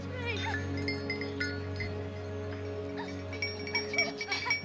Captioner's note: bells ringing; both laughing